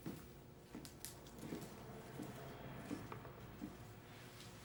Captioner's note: footsteps shuffle